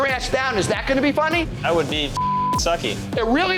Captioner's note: beep